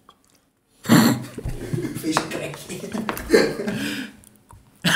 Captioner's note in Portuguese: risos